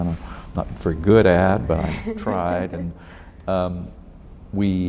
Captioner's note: laughs